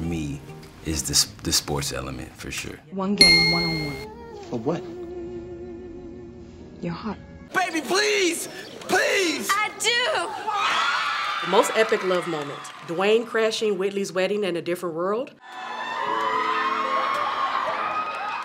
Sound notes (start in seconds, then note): 10.6 appalled screams; 15.4 audience gasps